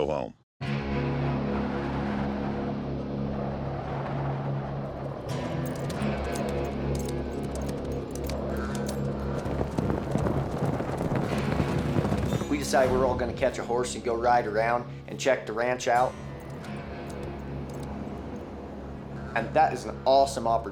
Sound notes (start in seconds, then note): 2.1 wind blowing hard; 5.2 hoofbeats